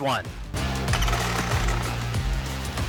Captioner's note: engine sounds